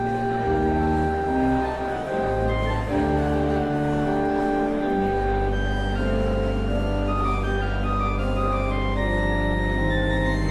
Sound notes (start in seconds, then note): none